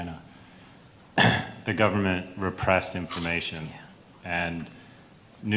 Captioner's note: clears throat